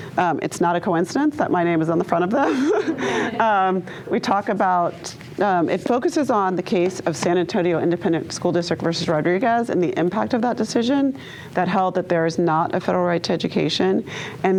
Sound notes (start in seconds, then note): 2.4 laughs